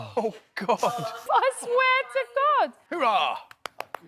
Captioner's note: laughs; claps